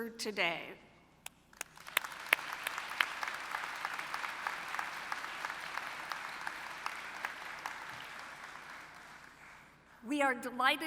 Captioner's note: applause